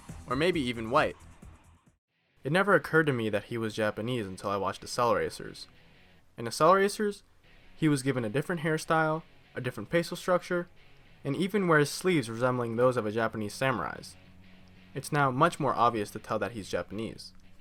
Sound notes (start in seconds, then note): none